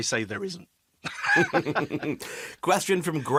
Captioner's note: laughs